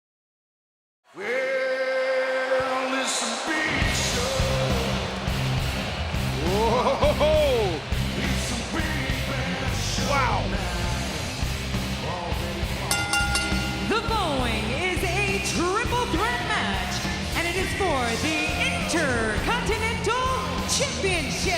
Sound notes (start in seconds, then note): 4.6 rock music; 12.8 bell dinging